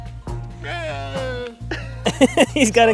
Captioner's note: camel bleats; laughing